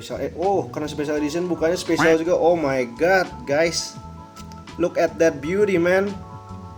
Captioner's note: happy noises